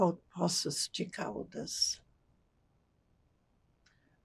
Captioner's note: non-english